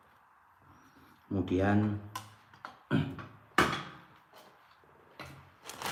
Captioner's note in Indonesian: berdehem